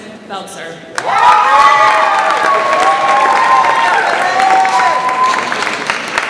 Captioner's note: audience applauds and cheers